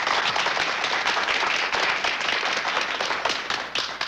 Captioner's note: applause